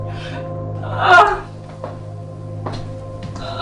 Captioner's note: whimpering